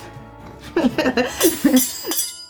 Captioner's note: laughing